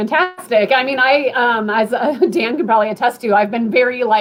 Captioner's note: laughter